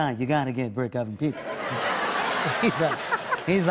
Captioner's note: normal voice; laughter